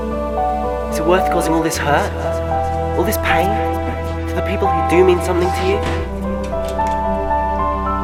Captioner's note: voice echo